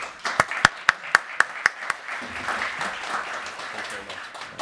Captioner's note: crowd applauding